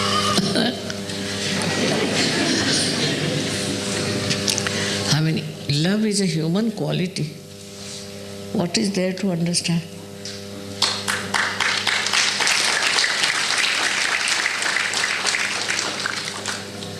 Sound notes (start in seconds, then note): 4.5 laughter